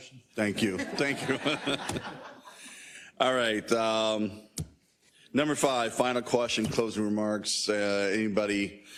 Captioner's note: laugh